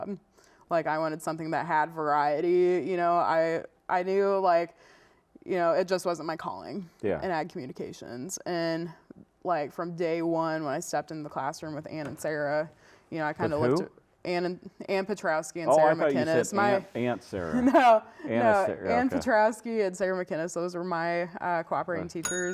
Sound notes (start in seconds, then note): 17.5 laughs; 22.2 bell dings